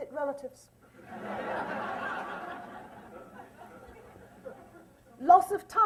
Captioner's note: laughter